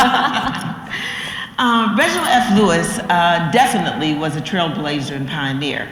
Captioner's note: laugh